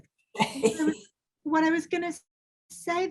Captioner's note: laughing